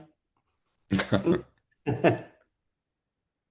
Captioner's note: laughter